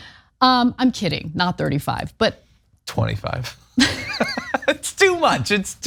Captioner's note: laugh